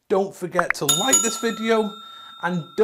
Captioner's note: finger clicking button; bell ringing